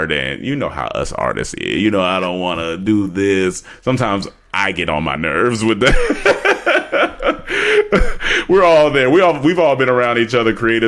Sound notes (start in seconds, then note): 5.9 laughs